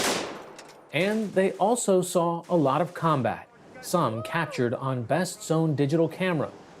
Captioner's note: gunfire